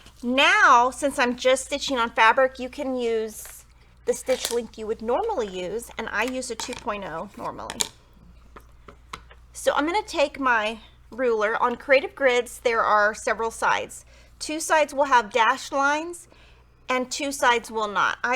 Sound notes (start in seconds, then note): none